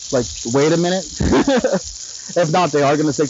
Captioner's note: laughing